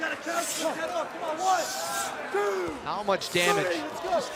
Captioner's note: crowd chatter